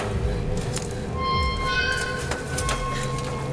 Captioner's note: el metal se queja; ominosa de la música; respira fuertemente